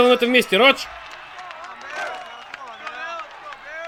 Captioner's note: overlapping chatter